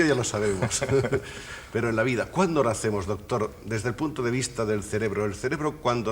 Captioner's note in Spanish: risas